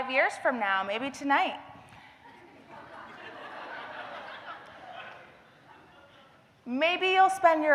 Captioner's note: laughter